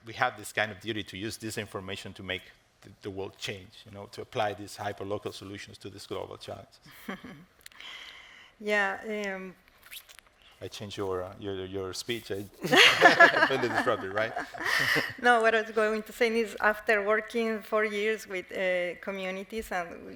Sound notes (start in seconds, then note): 6.9 chuckles; 12.6 laughs